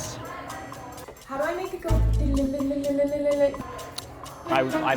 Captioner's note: humming